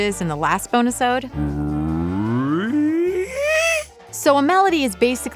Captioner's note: answers gruffly